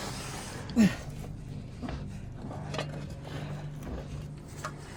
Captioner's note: grunting